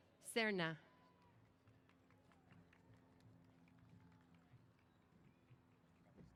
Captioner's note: applause